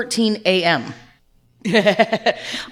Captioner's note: laughs